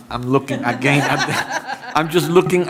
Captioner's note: laughter